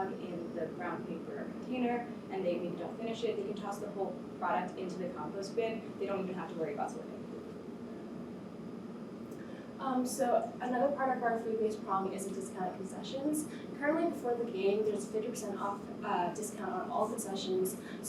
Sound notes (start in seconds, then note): 7.6 air conditioner hums